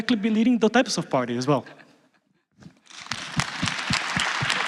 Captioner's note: applause